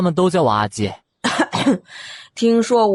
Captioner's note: coughs